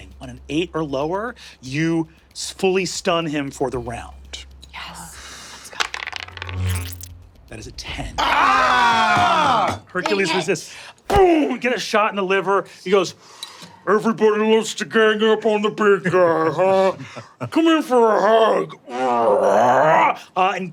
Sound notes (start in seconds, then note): 8.2 players groaning; 18.6 grunts